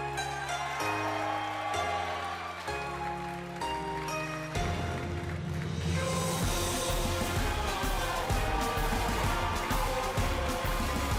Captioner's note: crowd cheering